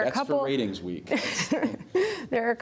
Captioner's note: laughter